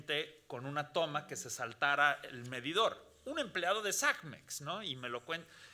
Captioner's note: speaking Spanish continues